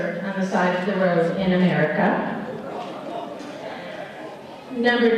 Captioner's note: laughter